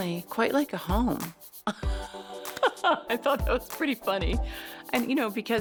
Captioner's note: laughs